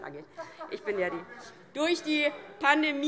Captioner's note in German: Heiterkeit DIE LINKE